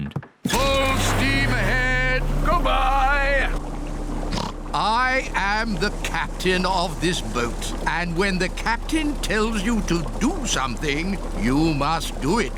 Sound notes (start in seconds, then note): 4.3 oinks